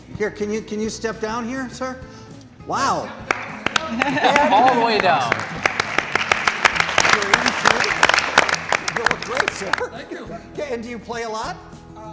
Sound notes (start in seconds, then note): 3.1 applause